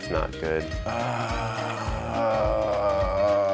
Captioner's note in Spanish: gruñidos